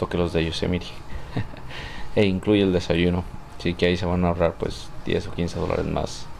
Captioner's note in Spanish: risas